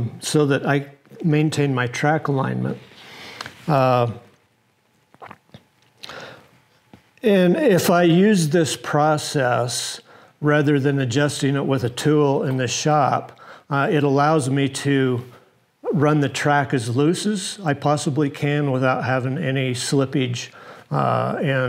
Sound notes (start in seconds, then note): 5.2 gulping